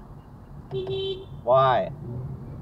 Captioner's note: beep beep